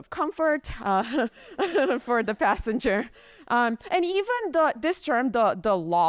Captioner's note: chuckles